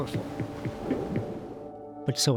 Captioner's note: waves crashing